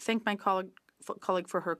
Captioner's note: speaking French